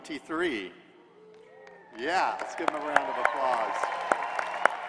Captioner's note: applause